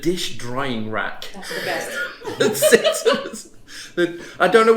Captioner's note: giggles